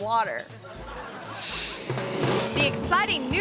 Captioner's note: audience laughing